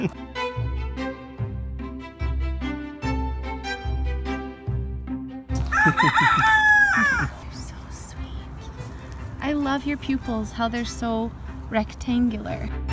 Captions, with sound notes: (rooster crows) You're so sweet. I love your pupils, how they're so rectangular.